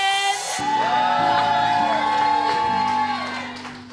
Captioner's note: cheering